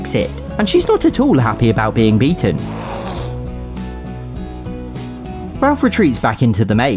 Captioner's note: Bella hisses